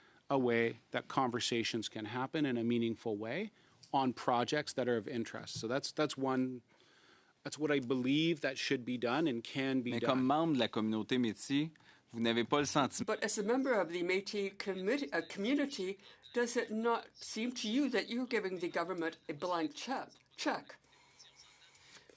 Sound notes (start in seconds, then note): 14.4 speaking French